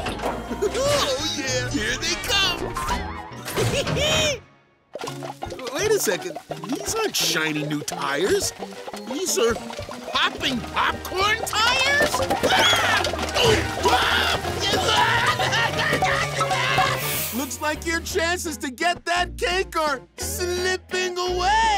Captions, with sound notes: [laughs] Oh, yeah, here they come! [laughing] Wait a second, these aren't shiny new tires. These are popping popcorn tires? [screaming] Looks like your chances to get that cake are slipping away!